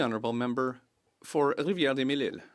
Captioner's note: speaking French